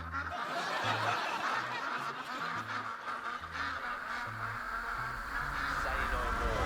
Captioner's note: ducks quacking